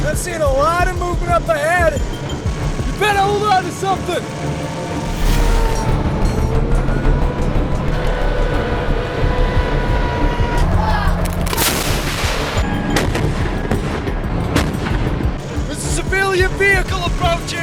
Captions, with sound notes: We're seeing a lot of movement up ahead. Better hold onto something. (speaking in foreign language) There's a civilian vehicle approaching.